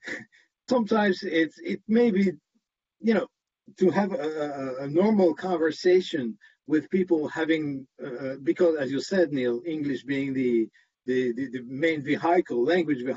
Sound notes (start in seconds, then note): 2.7 speaks with French accent